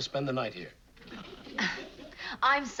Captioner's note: sighs